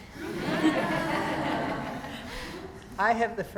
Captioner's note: students laughing